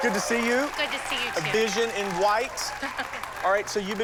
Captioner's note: chuckles